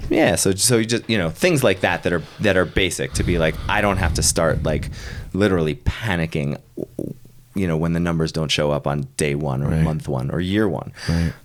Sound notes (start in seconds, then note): none